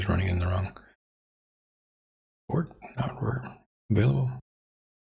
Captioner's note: blank Audio